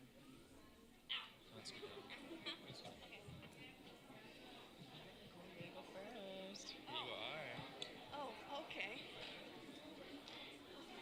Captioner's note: talking in background